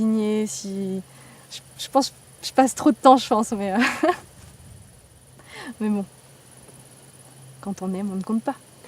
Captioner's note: laughs